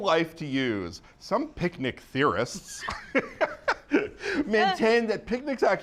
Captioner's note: laughs